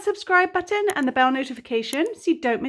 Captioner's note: mouse clicking